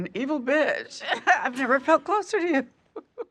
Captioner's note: laughs